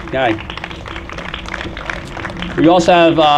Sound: applause

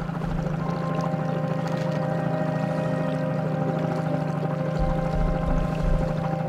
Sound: boat spluttering; somber music

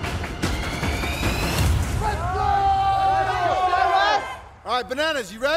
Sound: dramatic music; yelling and cheering

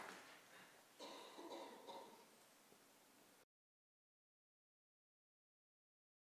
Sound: applause

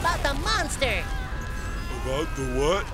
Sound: screaming

